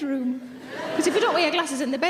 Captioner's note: audience laughing